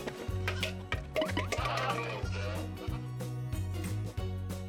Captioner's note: controlling their laughter